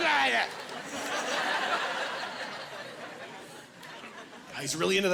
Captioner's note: muttering like a pirate